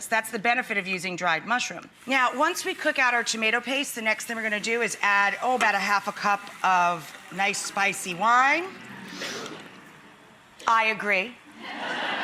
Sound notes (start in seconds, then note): 8.8 audience awes